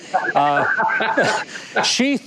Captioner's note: Matthew laughing